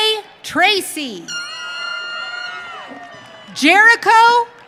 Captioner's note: audience cheering